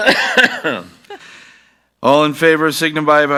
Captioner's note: coughing